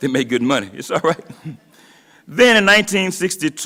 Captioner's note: laughs